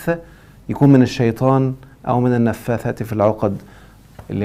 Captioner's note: exhalation